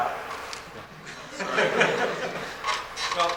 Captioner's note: laughter